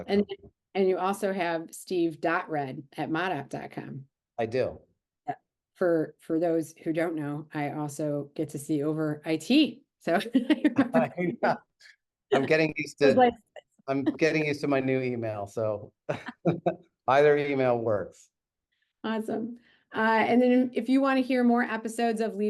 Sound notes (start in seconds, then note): 10.6 laughing